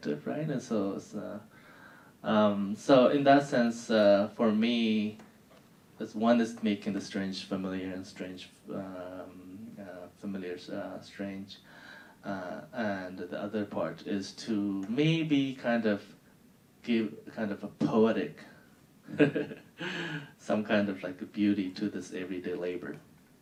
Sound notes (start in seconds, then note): 19.1 laughing